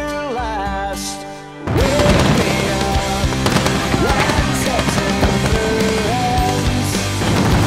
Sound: gunshots and explosions

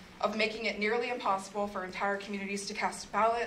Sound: none

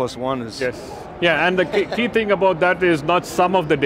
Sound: chuckling

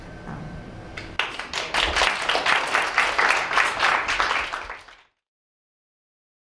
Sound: applause

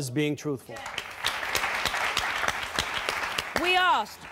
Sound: applauding

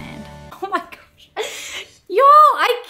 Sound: laughs

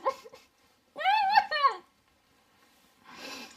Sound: sobbing

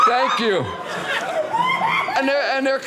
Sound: audience laughing

